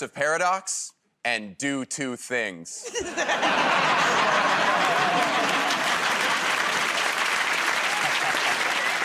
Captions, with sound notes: creative recursive paradox and do two things. [ Laughter ] [ Applause ]